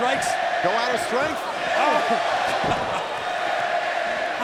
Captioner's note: laughs